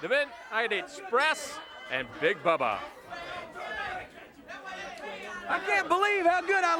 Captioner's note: crowd clamoring; bell ringing